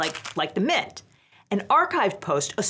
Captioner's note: mints rattling